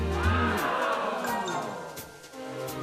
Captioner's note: audience gasps